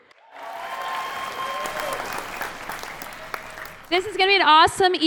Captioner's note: applause